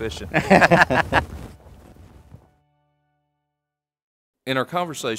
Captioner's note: laughing